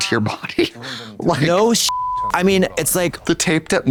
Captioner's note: beep